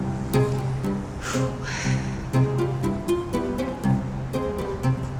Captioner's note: sighs